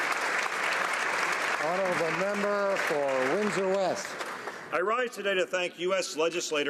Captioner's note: applause